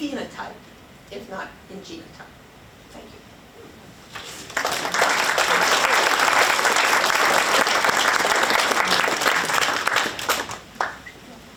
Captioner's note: applause